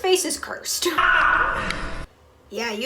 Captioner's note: screaming